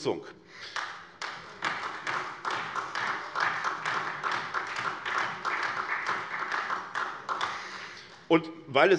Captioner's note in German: Beifall SPD